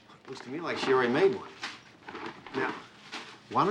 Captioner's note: none